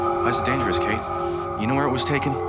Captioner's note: none